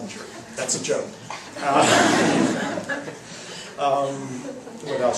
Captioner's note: laughs